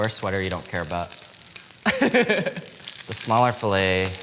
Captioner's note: laughs